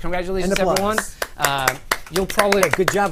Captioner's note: applause